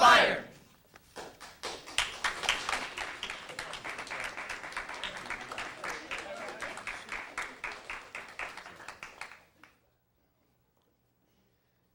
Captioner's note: applause